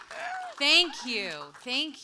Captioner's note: audience applauds